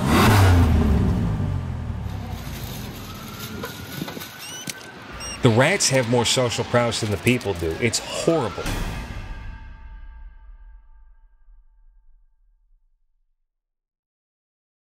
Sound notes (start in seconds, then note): 0.0 car engine; 3.4 police siren